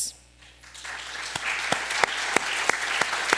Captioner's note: applause